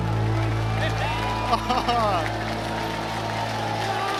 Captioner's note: crowd claps and cheers